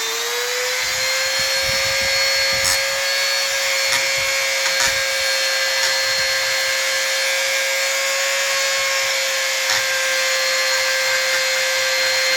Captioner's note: grinding sound